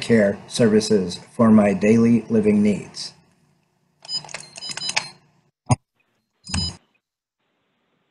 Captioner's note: beeping